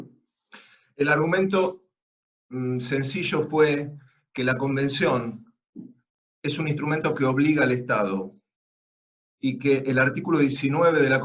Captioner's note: Spanish